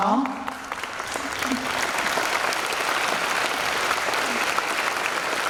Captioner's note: applause